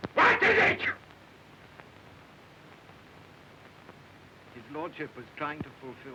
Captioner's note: shouting